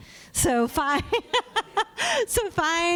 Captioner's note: laughs